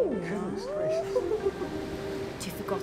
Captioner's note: waves crashing; laughs